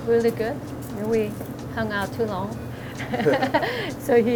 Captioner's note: both laugh